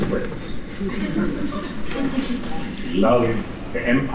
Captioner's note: laughter